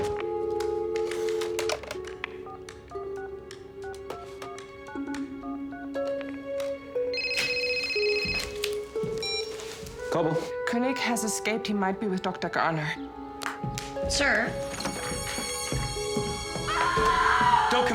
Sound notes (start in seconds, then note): 0.3 dial tone buzzing; 7.0 phone ringing; 16.6 woman screaming